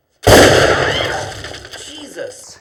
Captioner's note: gunshot